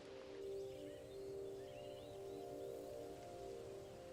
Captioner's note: birds chirping